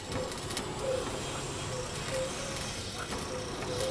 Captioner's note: welding noises